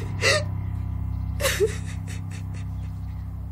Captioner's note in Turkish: Ağlıyor